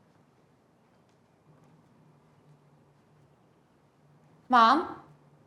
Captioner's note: none